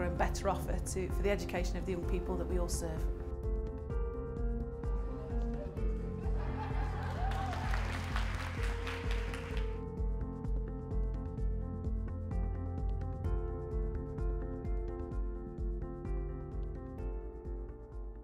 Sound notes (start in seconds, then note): 5.3 applause and laughter